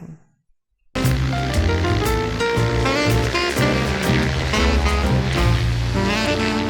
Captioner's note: upbeat music; plane whirs